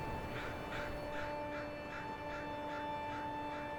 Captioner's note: light music; crows cawing